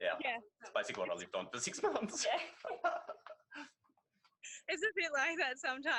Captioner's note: laughs